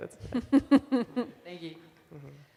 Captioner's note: laughs